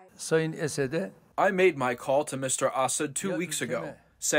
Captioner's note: through translator